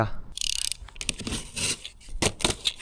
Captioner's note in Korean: 박스 뜯기